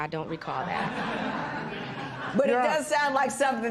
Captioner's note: laughter